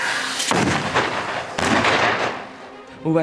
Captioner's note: props booming